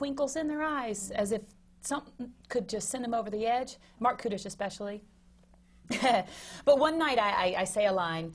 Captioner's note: laughs